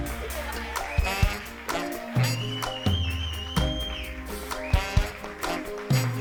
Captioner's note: audience whistling; upbeat music continues